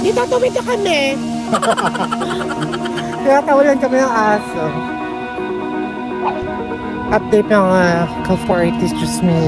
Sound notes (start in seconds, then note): 1.4 laughing; 1.5 laughing SFX